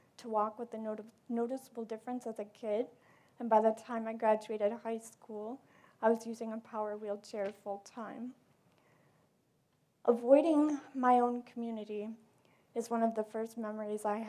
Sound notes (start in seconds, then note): none